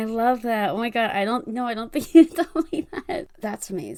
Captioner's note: laughs